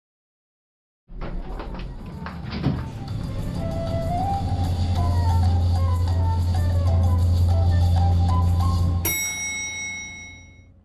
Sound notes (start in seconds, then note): 1.3 elevator whirring; 9.1 elevator dings